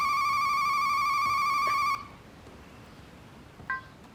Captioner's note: phone ringing